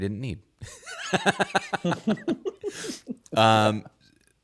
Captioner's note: laughing